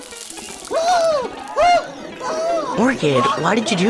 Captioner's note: Mr. Blackout screams in pain. The other students laugh